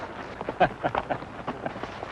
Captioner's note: laughter